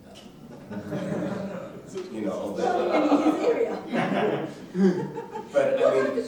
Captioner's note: laughter drowns out mumbling